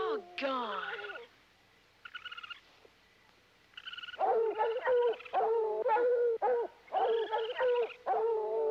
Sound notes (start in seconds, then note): 1.4 raccoons squealing; 4.2 dogs barking